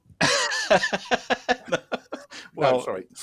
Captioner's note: laughter